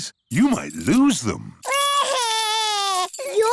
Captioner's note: crying